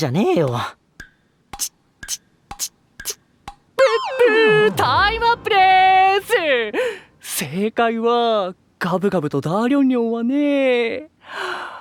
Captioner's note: imitating a stopwatch